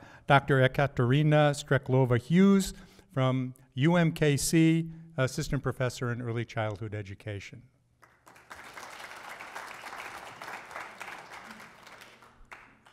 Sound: applause

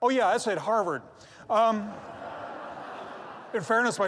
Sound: laughter

